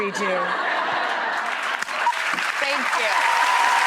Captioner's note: audience laughs; audience applauds